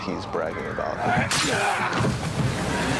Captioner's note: grunting; sword slicing